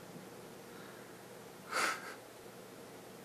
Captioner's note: lil cute laugh